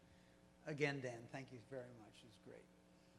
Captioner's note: voiceover